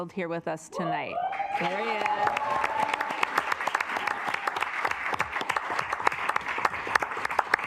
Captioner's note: assembly cheering; assembly clapping